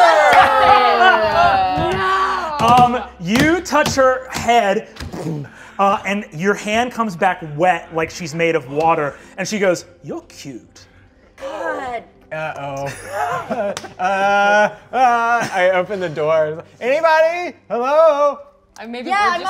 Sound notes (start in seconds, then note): 0.0 all groaning; 5.4 thuds